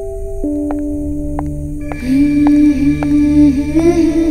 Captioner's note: Poonam's footsteps